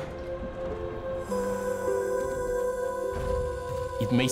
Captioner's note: whirring